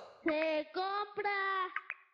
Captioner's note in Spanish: Sonido ropavejero